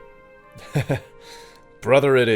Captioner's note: Lhikan chuckles